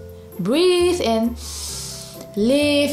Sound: breathes in deeply

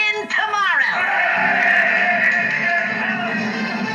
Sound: crew Cheering

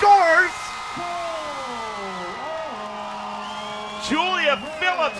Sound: crowd cheers

